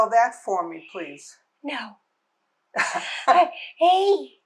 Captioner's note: laughing